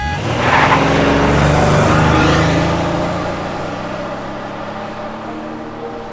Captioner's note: car horn honks, engine revs loudly